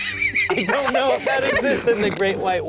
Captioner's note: laughing